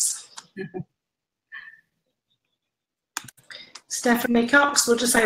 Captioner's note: laughs